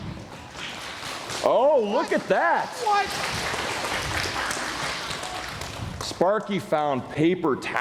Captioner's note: applause